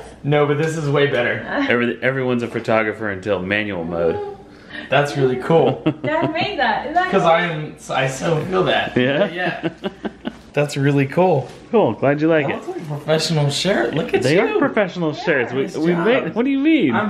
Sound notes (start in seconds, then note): 5.4 laughs; 8.9 laughs